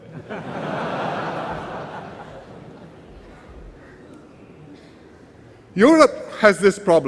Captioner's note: laughter